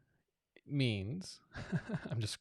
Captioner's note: laughing